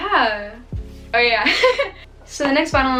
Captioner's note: laughs